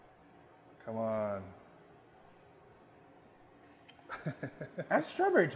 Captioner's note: laughing